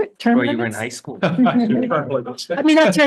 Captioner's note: laughs